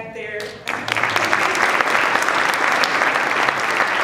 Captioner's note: applause